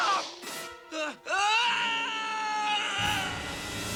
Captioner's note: screaming